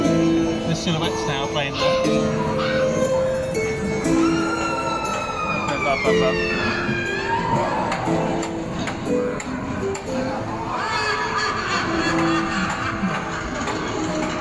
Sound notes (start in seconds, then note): 7.3 lady yelling; 10.7 ghoulish laugh